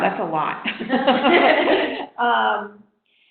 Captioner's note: laughing